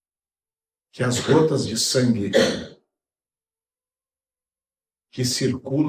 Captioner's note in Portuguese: limpando a garganta